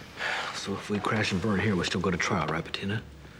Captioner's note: sighs